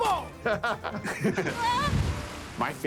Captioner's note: both laugh; yelps